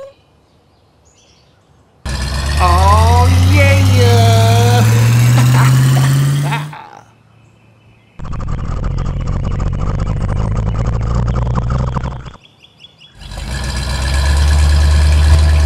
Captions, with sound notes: [ engine speeding up] awe yeah ha ha ha ha [ crane speeding up] [ crane motor]